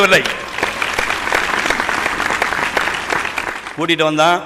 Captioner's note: appreciative applause